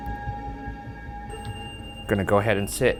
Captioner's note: REM pod screeching